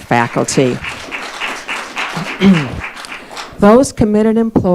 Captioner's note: audience applauding